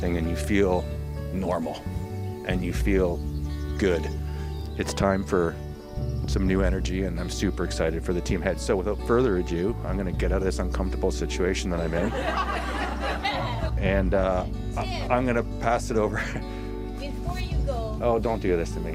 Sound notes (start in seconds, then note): 11.8 attendees laughing